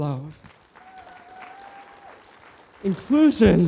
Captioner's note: applause